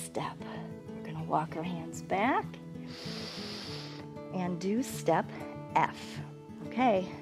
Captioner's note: inhales